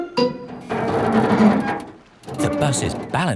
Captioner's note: creaking